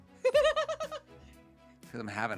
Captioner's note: laughing